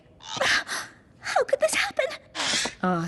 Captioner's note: sob